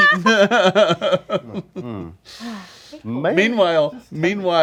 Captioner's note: laughing